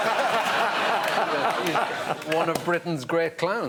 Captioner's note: laughter